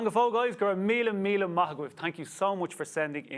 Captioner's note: speaks Irish